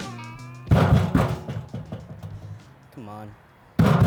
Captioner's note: fist banging